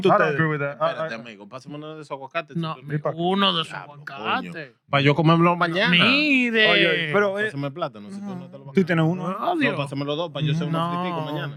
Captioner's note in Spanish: Hablando en idioma extranjero